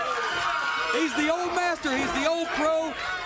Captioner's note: crowd cheering